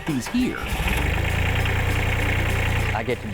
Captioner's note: tractor engine roaring